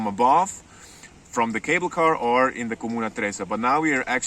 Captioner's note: speaks foreign language; speaks foreign language